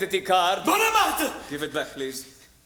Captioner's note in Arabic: بالعبري